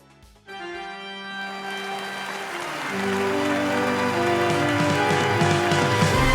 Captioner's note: spooky organ music; audience applauds